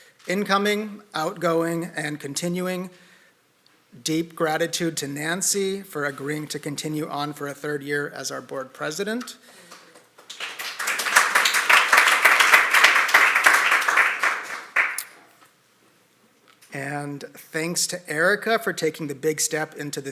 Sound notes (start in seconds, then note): 9.6 applause